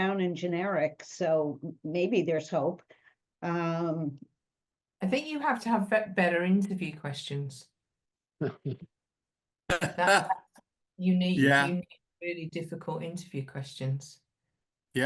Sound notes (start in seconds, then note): 9.7 laughing